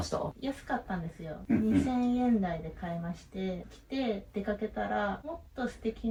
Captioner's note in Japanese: 咳払い